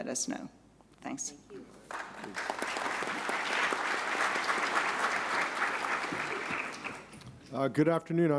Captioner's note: applause